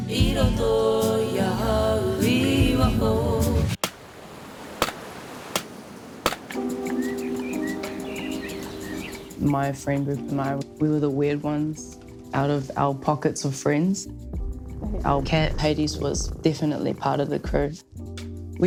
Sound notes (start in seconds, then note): 3.4 waves crash; 6.7 birds whistle